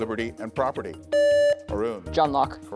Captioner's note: buzzer beeps